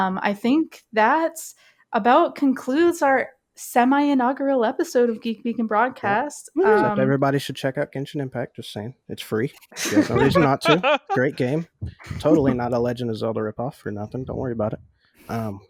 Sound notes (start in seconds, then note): 9.7 laughing